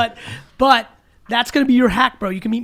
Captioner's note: Allen laughs